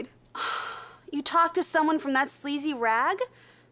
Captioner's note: sighs